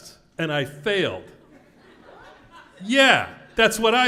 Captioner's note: laugh